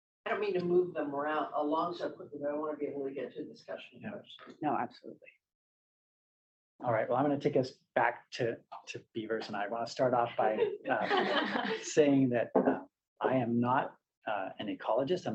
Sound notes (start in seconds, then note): 10.2 laughter